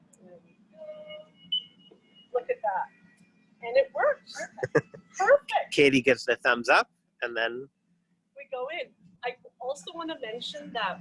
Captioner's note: laughs